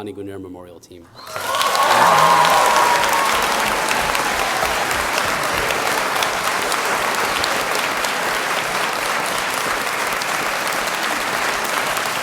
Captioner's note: applause